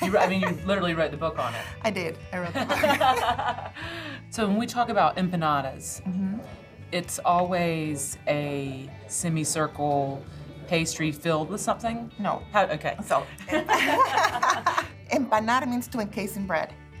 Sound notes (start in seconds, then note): 2.6 laughing; 13.5 laughing